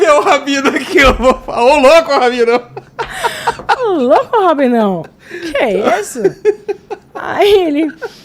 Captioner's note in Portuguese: risadas